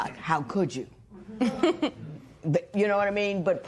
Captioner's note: chuckles